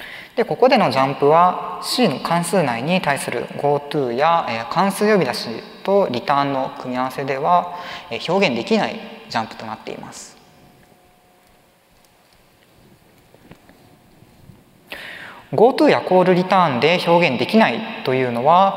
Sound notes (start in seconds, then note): 10.8 silence